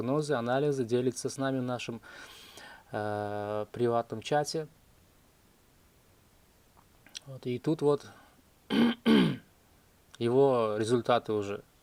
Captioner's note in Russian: кашель; откашливается